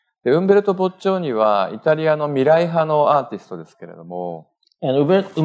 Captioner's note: speaking japanese